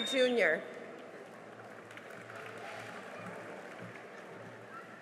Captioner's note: cheering and applause